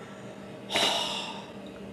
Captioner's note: sighs in disbelief